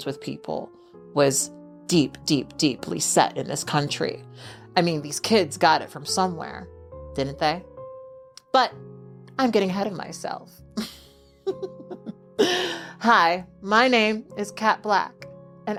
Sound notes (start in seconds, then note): 11.5 laughs